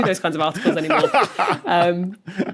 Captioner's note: laughs heartily